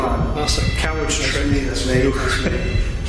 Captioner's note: beeping